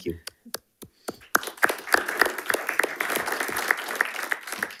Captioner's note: panelists applauding